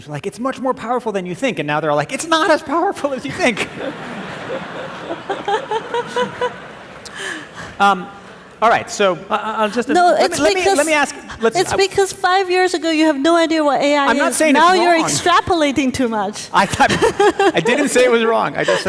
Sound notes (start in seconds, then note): 3.1 audience laughing